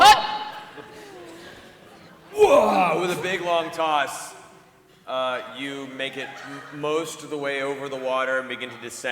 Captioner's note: grunts